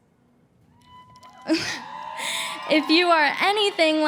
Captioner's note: cheering